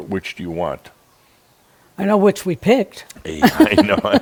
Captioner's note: they chuckle